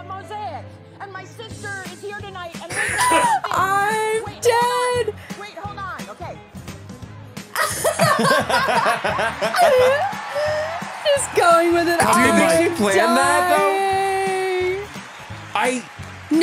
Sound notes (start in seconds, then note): 2.7 everyone laughs; 7.6 everyone laughs